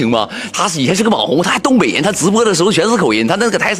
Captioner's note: Dongbei dialect